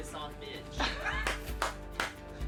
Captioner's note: laughing